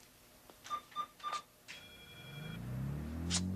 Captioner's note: machine beeping; machine whirring